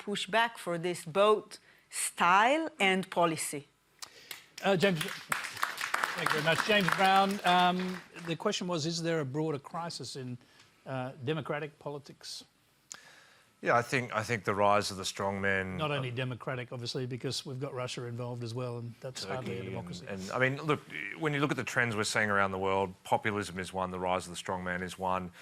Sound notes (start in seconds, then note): 4.2 applause